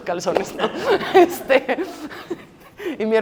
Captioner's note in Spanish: Risas